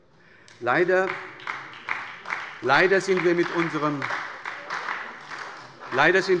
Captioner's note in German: Beifall bei der SPD